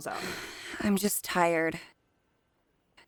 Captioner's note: sighs